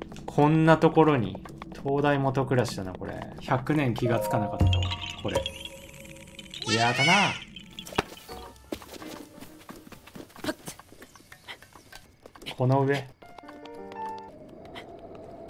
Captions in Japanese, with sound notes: こんなところに 灯台下暗しだなこれ 100年気が付かなかったわ これ やったなあ～！（鳴き声） この上